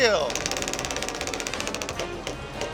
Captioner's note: clicking